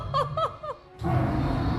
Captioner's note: laughs; dragon roars